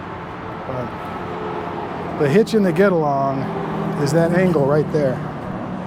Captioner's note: street noise